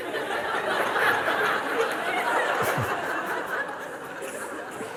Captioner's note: laughter